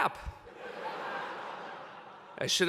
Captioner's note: laughter